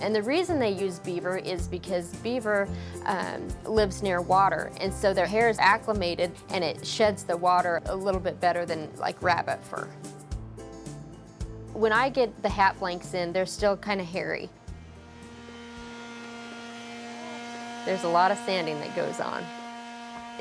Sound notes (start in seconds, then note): 14.6 sander whirring